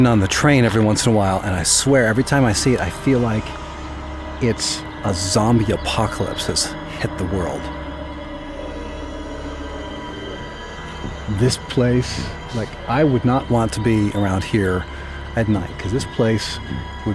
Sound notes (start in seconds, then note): 8.9 groaning